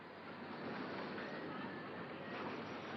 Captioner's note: street noise